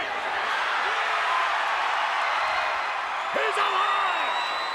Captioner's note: crowd cheering